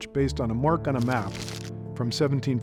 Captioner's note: map rustling